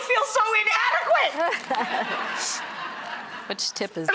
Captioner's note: audience laughs